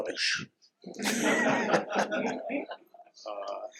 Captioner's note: laughter